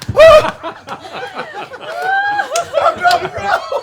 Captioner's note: laughter